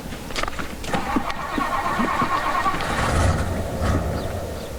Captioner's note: footsteps tapping; car engine revving